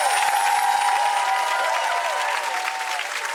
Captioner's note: chiming; applause